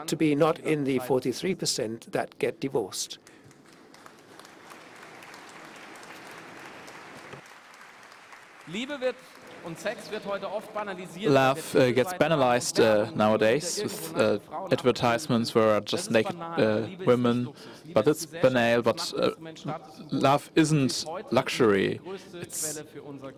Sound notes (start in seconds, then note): 12.5 applause